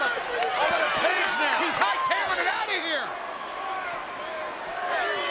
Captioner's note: overlapping chatter